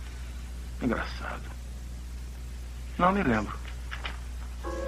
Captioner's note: door Opens